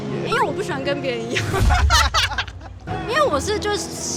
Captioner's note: laughs in disagreeability